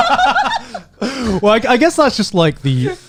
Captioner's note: laughing